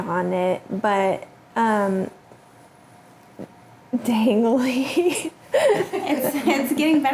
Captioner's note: laughs; people laughing